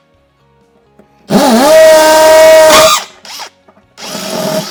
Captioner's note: drill humming